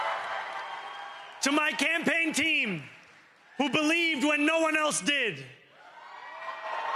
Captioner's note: cheering